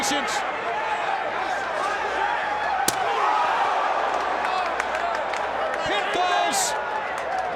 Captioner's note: crowd chatter; crowd chatter